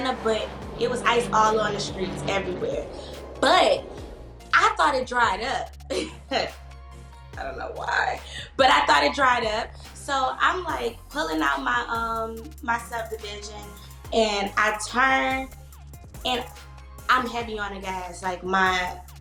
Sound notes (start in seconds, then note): 6.4 chuckles